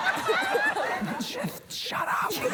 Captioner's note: whispers